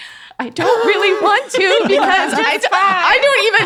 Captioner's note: everyone laughing